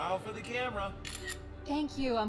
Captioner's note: camera shutter clicks